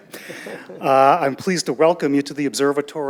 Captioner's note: audience laughing